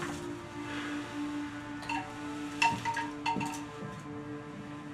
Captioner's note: wind chime